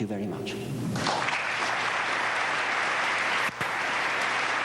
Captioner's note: applause